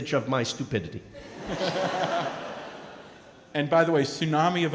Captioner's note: & crowd laughing